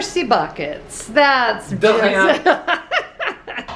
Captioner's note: speaking French; laughing